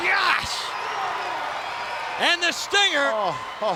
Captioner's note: audience cheers